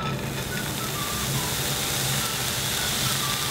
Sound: sizzling

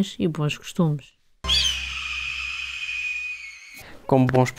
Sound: falcon screeches with patriotism

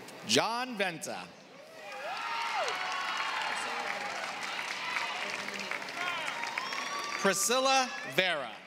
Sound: applause

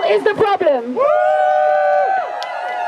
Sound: crowd cheers

